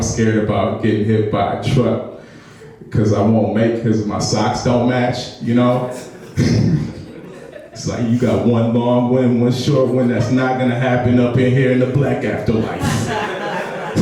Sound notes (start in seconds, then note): 5.8 laughs; 12.6 audience laughs